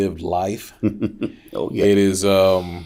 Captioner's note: chuckles